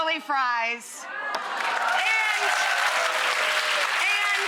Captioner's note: audience cheering